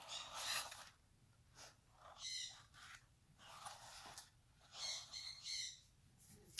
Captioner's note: lots of bird squawking noises in the background